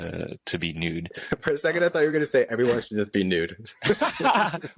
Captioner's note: laughter